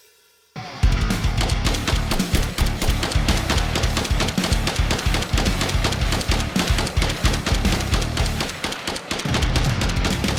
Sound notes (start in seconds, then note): 1.4 gun blasting